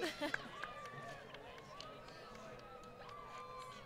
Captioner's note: laughter